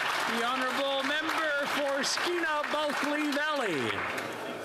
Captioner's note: applause